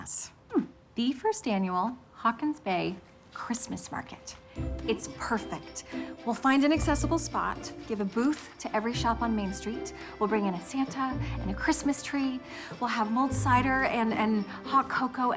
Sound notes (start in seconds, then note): none